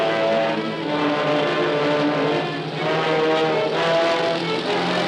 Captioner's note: helicopter whirring